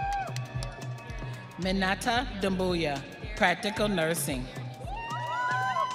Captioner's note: audience cheering